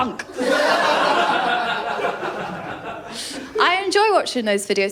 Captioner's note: laughter